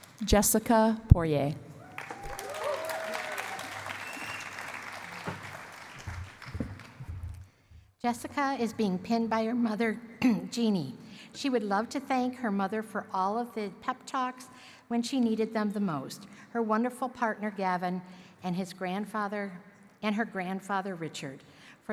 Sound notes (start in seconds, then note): 1.8 cheering and applause